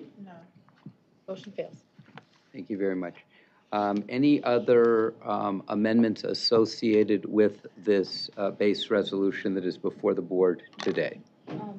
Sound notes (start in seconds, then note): none